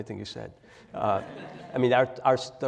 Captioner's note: laugh